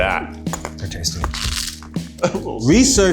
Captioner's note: crunches